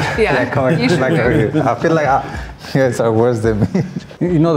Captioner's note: guests laugh; mumbles